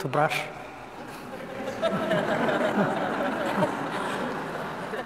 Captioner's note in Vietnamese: tiếng cười